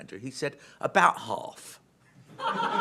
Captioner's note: laughter